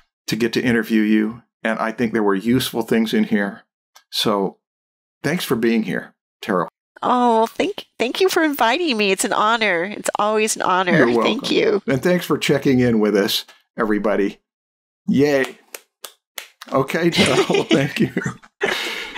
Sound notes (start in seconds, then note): 15.3 claps; 17.1 laughter